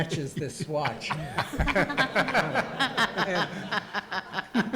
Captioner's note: audience laughs